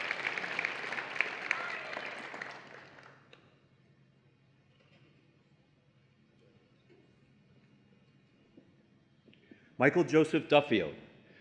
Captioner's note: applause and Cheering